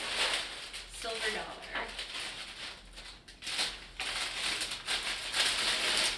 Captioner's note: crinkling